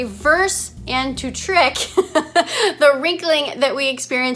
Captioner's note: chuckles